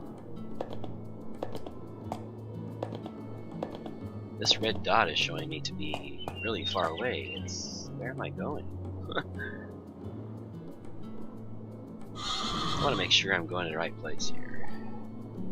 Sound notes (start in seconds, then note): 9.1 chuckle